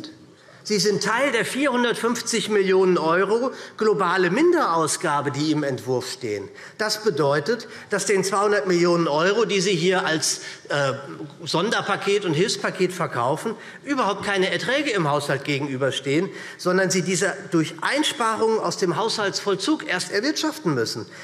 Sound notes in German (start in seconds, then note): none